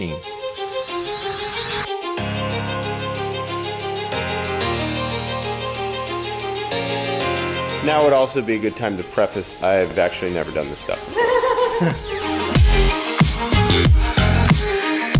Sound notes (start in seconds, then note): 0.3 frantic music; 11.0 woman laughing; 12.3 exciting music